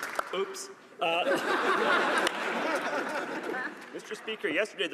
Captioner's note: some Applause